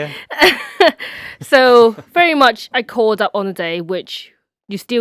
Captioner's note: laughs